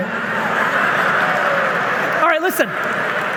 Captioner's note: audience laughing